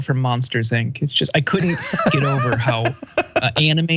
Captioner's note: laugh